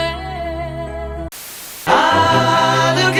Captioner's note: TV Static